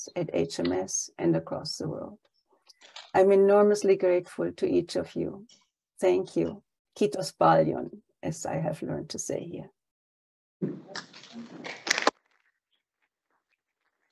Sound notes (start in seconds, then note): 6.8 speaks in foreign language; 10.7 audience applauding